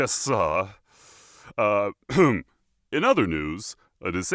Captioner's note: cough